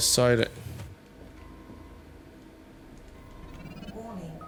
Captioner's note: alarms Going Off in the Background